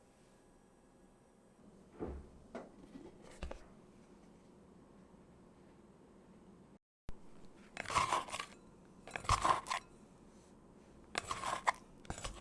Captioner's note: folding